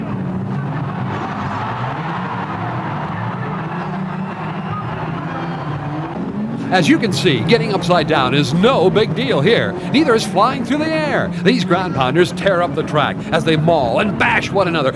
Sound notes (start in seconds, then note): 1.2 crowd roars